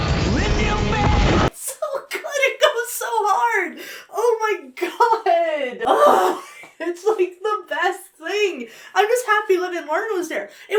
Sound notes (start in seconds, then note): 5.8 gushes